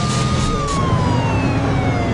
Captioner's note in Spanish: Sirenas